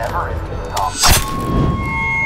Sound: thwack

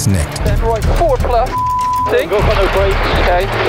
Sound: beep

